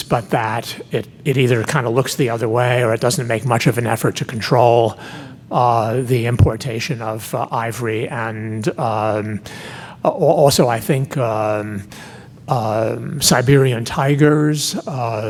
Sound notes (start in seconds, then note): none